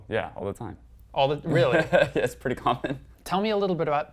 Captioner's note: laugh